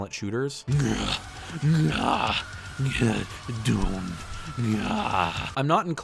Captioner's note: angry doomguy noises